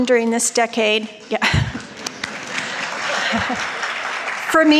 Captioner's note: crowd applauding